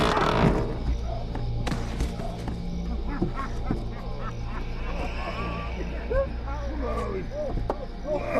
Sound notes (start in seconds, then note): 2.9 man groaning; 5.1 men laughing